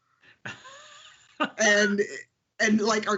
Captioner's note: laughs